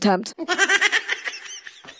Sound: drunk squirrel laugh

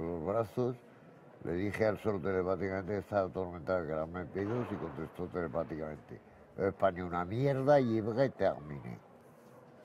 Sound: spoke in French

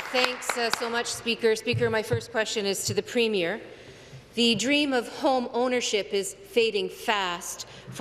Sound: applause

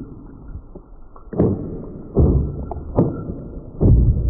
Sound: air rumbling

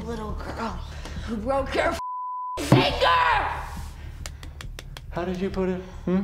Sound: claps

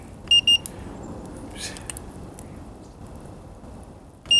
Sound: thermometer beeps

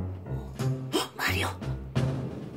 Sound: gasps

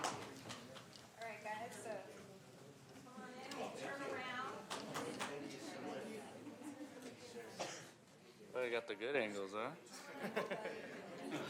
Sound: applause

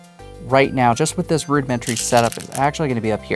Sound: stones rattling

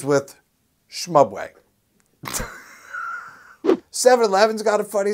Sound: laughs

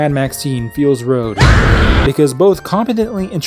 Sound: woman screams

